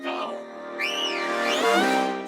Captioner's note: whistles